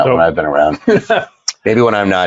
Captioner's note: laughs